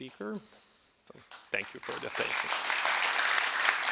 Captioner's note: audience applauds